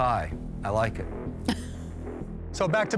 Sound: chuckles

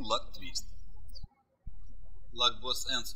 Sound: birds chirping

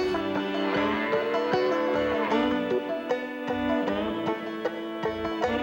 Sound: cow mooing; bright acoustic music

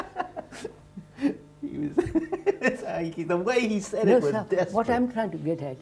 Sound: laughter

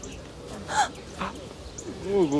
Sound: startled sounds

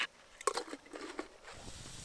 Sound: kettle clanking; kettle hissing

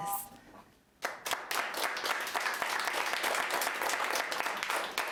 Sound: audience applauding

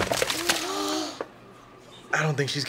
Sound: friends gasp

